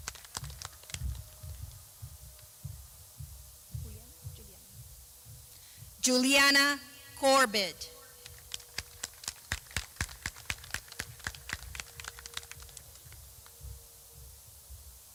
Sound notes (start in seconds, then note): 0.9 clapping